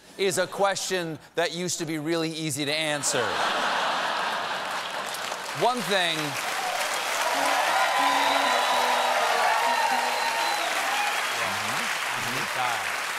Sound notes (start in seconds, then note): 3.2 laughter; 4.3 applause; 7.4 piano riff